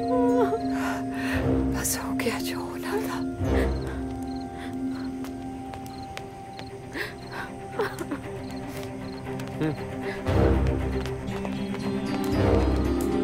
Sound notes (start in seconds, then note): 5.3 Footsteps; 6.9 Sobbing; 7.7 Crying; 11.0 Footsteps